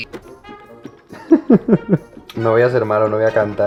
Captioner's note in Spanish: Risas